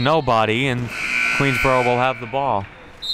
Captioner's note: clock buzzes